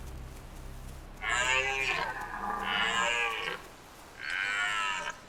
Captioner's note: deer bellowing